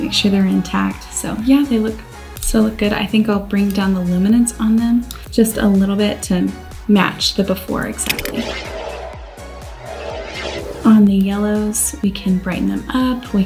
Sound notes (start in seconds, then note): 7.8 upbeat music; 8.0 whirring